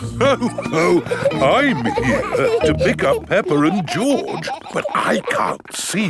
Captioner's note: laughs